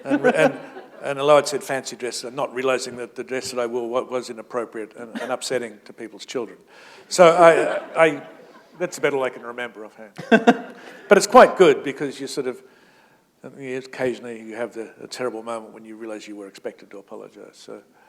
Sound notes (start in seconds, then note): 7.8 chuckle; 10.2 chuckle